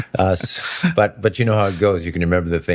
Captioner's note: laughing